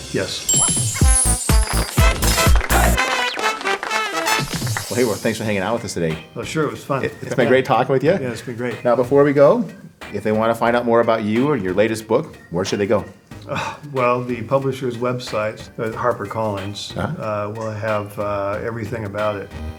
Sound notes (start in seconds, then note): 1.0 people applauding; 1.2 upbeat music